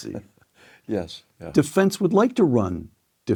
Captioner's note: laugh